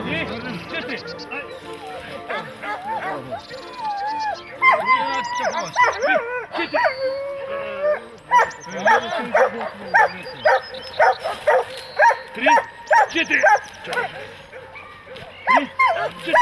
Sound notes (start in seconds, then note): 5.7 dog whining; 5.7 shuffling; 11.6 dogs barking